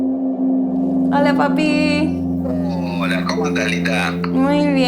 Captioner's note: beeping; speaking spanish